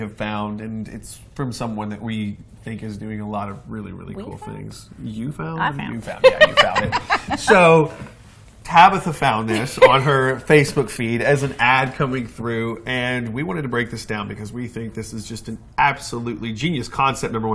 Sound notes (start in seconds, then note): 6.0 laughing